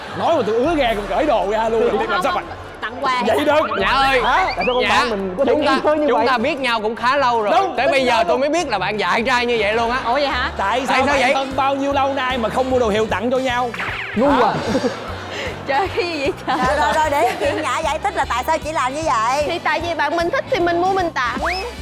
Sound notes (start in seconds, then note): 14.0 laughing